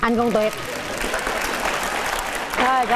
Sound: clapping hands

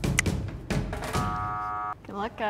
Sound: buzzer wails

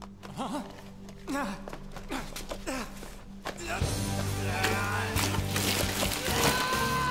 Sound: painful grunts

